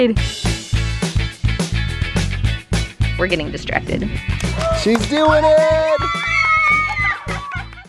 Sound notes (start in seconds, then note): 0.0 upbeat music; 6.2 cheering